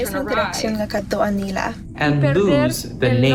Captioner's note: girl speaking foreign language